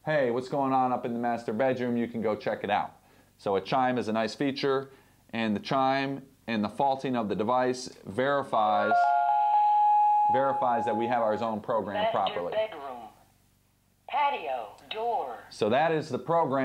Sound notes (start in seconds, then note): 8.8 digital chimes; 12.1 computer voice